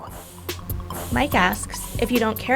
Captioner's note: voiceover